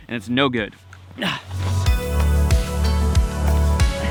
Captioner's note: grunts; ambient music